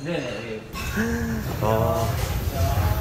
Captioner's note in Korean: 놀람